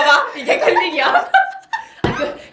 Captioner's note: laughter